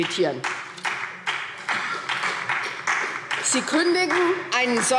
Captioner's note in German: Beifall SPD